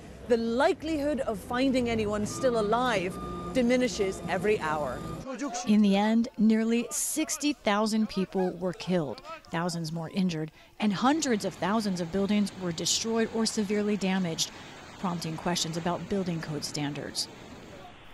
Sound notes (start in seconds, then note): 6.4 voice-over